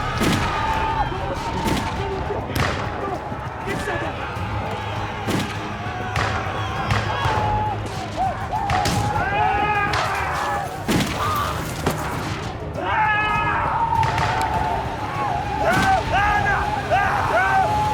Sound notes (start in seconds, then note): 0.0 gunfire; 6.6 screaming, gunfire